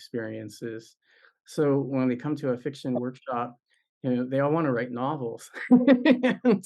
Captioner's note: laughs